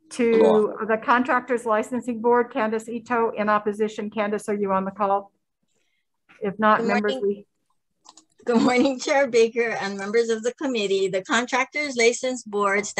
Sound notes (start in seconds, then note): 5.3 silence; 8.4 chuckles